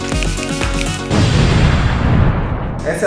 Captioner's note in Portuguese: Som de Explosão